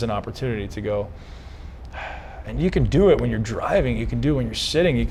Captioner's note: sighs